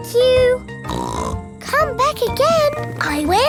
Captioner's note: snorts